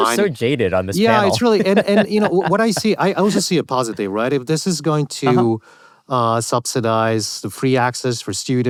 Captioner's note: laughter